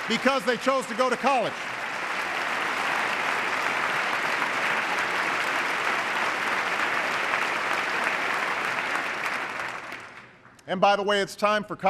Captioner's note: applause